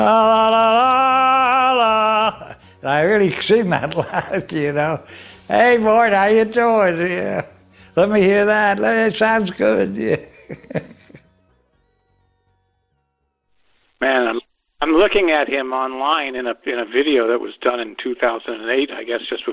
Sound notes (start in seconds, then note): 0.3 singing loudly; 9.2 laughs